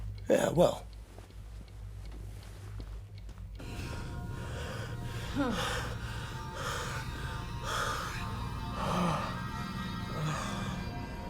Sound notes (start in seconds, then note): 2.3 clock ticking continues; 5.2 gasping, grunting